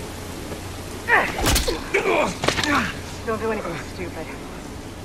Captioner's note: grunt